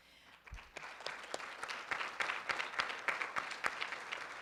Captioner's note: room applauds